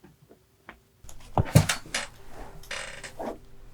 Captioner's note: sound of plopping onto a chair